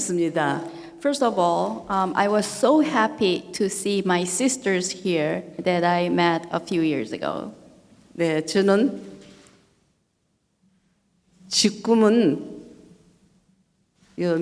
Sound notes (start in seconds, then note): 8.4 speaking foreign language